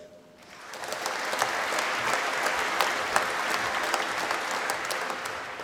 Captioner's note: applause